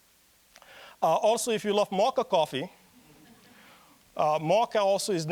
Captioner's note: audience chuckling